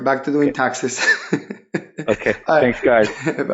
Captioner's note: chuckling